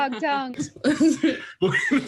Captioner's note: laughing